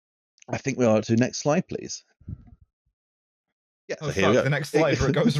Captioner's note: many people speaking; laughs